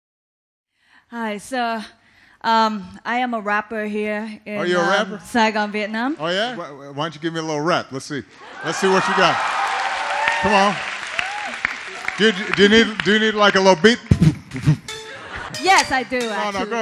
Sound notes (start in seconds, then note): 8.4 audience applauds; 14.0 Obama beat boxes; 14.9 upbeat rap music